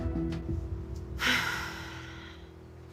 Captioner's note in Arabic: تنهدات